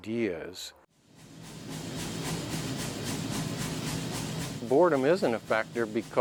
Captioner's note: machine bangs